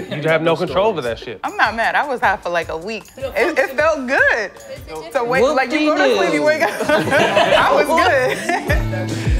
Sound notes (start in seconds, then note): 6.5 laughs; 6.6 laughter